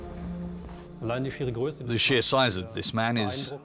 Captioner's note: speaking German